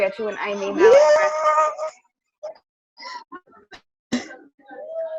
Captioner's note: cheers